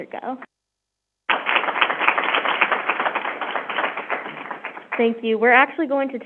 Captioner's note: crowd applauding